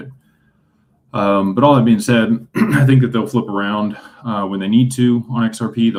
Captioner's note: clears throat